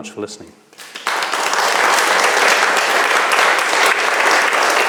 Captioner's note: audience applauds